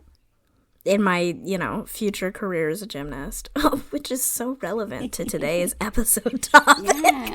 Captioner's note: laughing